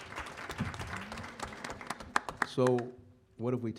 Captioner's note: applause